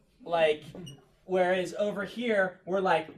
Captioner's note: students chuckle